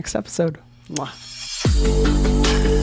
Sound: upbeat bright music; Hyram blows kiss

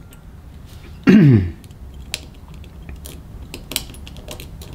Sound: clears throat

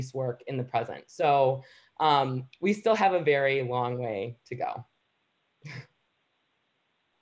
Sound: chuckles

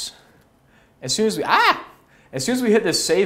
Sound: yelps

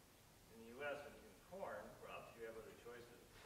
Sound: none

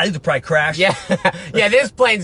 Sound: laughs

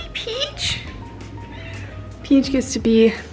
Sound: cat meows

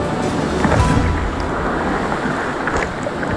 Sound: water splashes

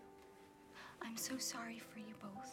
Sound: none

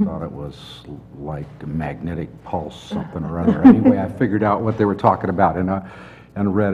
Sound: laugh

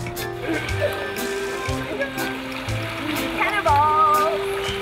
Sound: both laughing

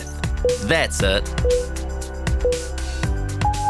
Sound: timer beeping

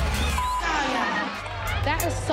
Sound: beep

